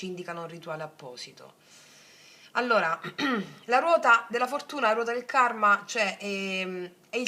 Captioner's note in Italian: schiarire la voce